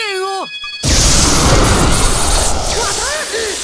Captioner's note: panicked cries